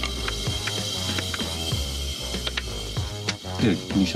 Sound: slurping aggressively

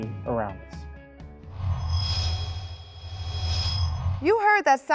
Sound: sound Effects

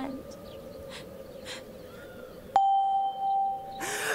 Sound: Pia sobs

